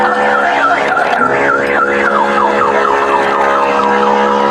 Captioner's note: alarm beeeepiping